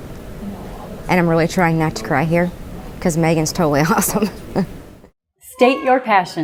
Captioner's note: laughing